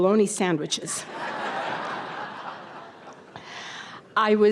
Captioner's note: audience laughter